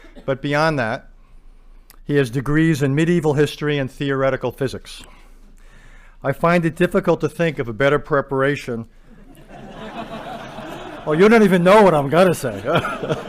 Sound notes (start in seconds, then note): 9.2 laughter